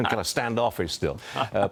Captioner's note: laughter